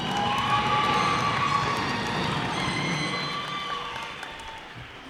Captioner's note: cheers and applause